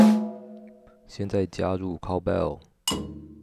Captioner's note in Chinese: 牛鈴